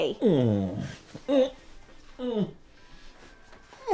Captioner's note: Butch groans